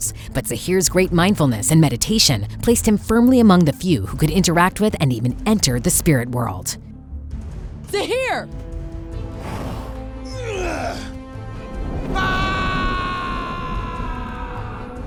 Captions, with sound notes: but Zaheer's great mindfulness and meditation placed him firmly among the few who could interact with and even enter the spirit worl. Zaheer! [grunting] [screaming]